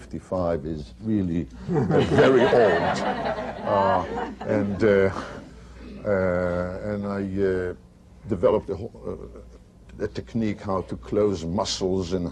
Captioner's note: laughter